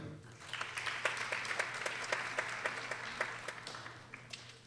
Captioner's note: people applauding